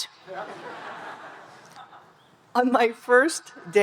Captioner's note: audience laughing